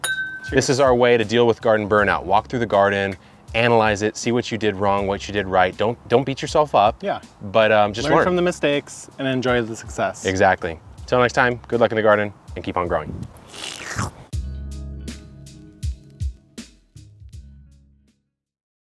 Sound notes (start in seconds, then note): 0.0 glasses clinking; 13.2 slurping sounds; 14.4 gentle music